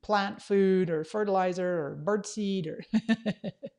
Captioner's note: laughs